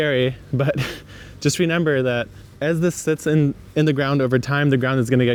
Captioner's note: laughs